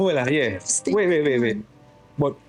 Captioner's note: speaking in foreign language